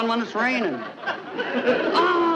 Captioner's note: audience laughing